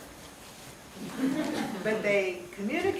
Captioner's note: audience chuckling